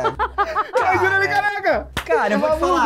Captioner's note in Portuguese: risadas